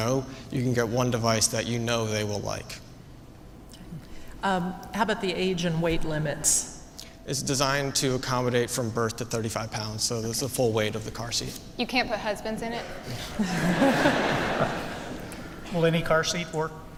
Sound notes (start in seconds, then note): 13.1 laughter